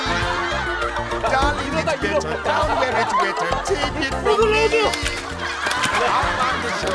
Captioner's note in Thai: เสียงหัวเราะ